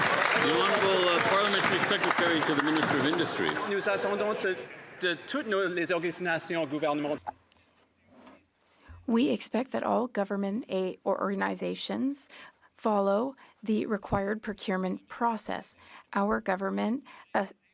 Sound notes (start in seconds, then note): 4.5 some Applause; 12.4 speaking French